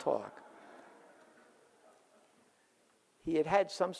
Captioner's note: audience laughs